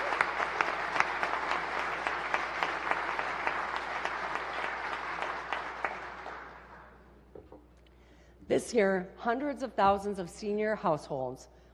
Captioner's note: applause